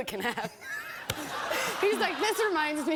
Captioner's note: laughter